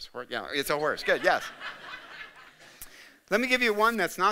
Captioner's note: audience laughing